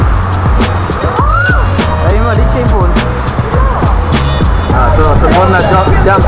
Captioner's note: scream